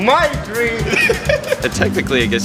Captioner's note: laughter